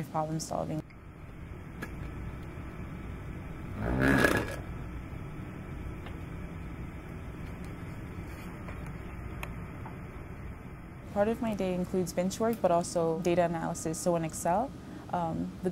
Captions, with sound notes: problem solving. [machine noises] Part of my day includes bench work but also data analysis, so in Excel.